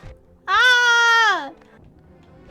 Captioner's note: screams in cat